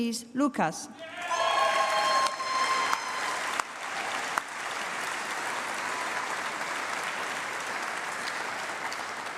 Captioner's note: applause